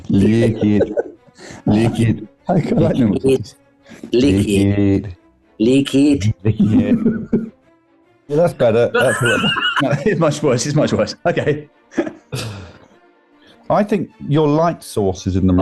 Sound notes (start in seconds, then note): 0.1 giggling; 6.2 laughing; 8.8 laughter